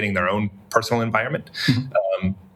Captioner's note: laugh